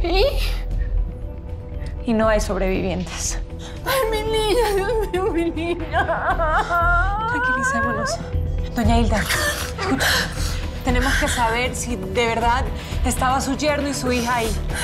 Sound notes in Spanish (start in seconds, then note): 6.2 Sollozos